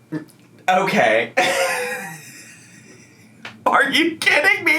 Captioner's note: laughs